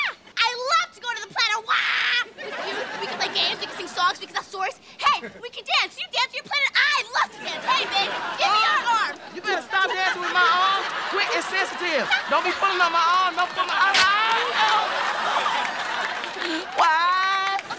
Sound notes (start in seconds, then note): 13.9 screaming